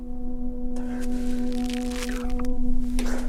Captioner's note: grass ripping noise